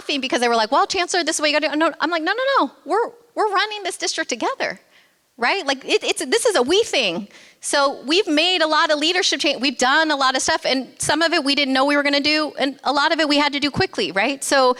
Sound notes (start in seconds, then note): none